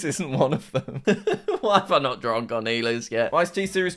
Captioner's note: laughs